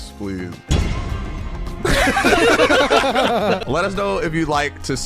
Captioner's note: dramatic tone; everyone laughing